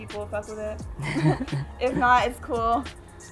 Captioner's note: both laugh